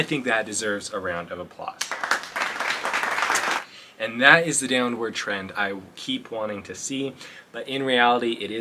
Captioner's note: clap awkwardly